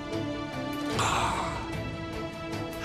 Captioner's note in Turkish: İnleme sesi